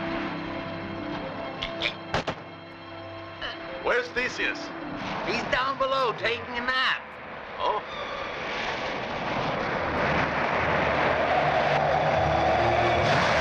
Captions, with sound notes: - Eh, eh. - Where's Theseus? - He's down below taking a nap. - Oh? (winds howling) (suspenseful orchestral music)